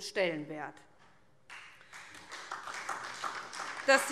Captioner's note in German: Beifall SPD